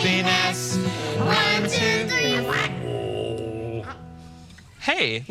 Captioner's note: Frank groaning